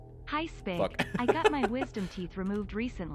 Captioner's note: laughs